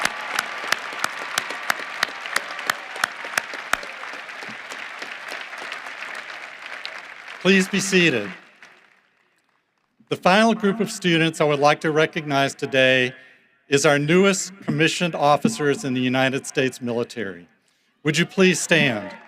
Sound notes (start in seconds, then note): 0.0 applause